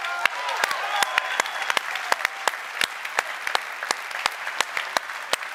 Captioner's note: applause